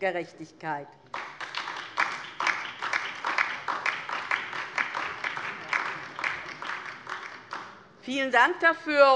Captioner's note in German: Beifall DIE LINKE und vereinzelt SPD